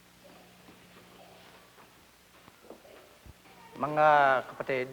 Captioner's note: filipino female choir singing; minister's footsteps; speaking Filipino